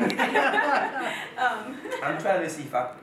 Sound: man laughs; laughs

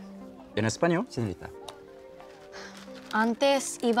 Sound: speaks Spanish

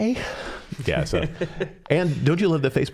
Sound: laughing

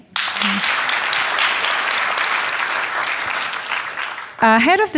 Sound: audience applauding

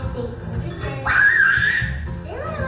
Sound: voiceover; yelling; voiceover

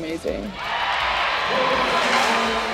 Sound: fans cheering

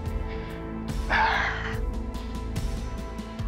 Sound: exhales deeply

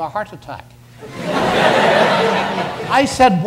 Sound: audience laughs

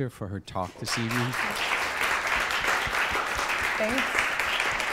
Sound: applause

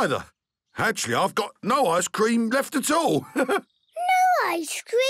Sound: chuckles

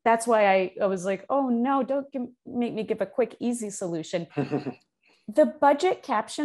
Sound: laughs

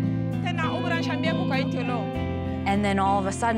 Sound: speaking foreign language

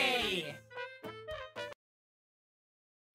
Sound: high pitched, comical cheer!

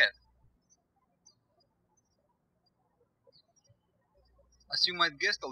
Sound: birds chirping

